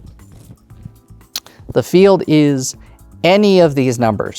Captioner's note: none